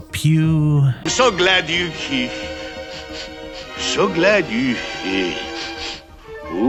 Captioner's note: sniff sniff